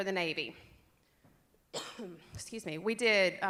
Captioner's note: cough